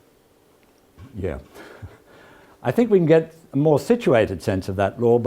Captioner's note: laugh